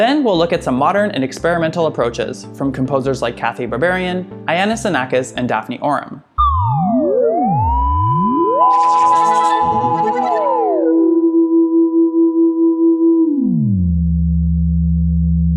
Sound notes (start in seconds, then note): 8.6 trippy sounds